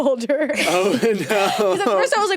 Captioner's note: everyone laughs